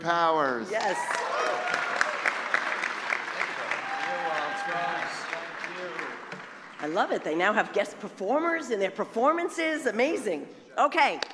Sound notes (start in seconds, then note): 0.7 applause